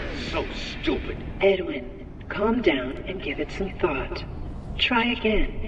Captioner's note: M1, using Fiona's voice